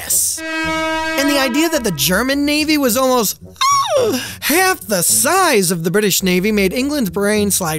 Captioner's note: gasp